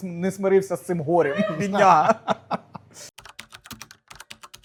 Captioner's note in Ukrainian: сміх